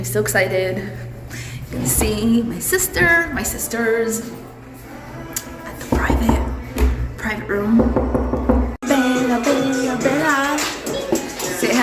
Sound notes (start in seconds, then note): 7.8 knocks on door; 9.0 background music plays